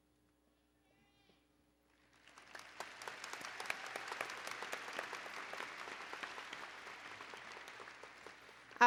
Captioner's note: applause and Cheering